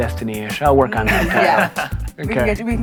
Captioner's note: laugh